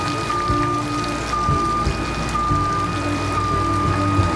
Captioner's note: truck beeping